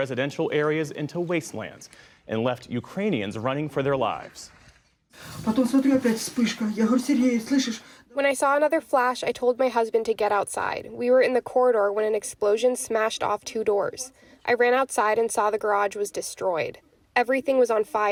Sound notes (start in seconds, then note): 6.7 through translator